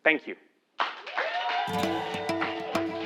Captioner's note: applause